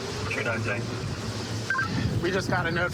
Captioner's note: radio communication